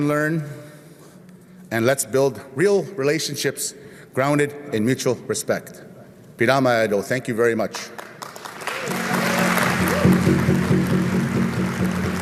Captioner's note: applause